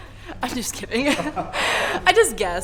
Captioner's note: both laughing